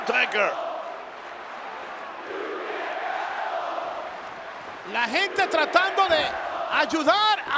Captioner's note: applause